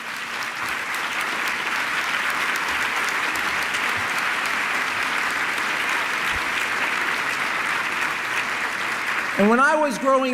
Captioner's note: applause